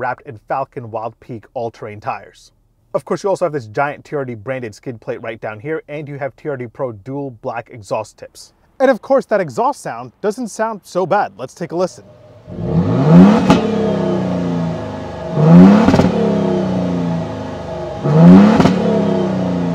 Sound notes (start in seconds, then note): 12.0 engine revving